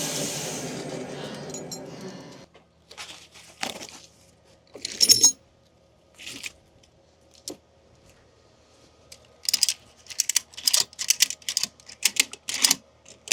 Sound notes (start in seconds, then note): 5.0 metal clanking; 9.7 ratchet buckle clicking